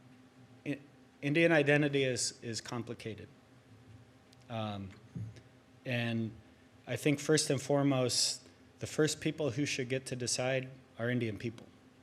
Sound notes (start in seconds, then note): none